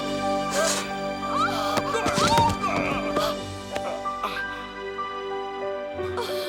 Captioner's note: heavy breathing; thud